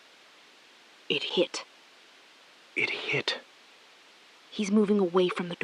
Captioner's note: SILENCE — 5 sec